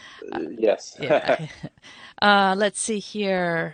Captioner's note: laughs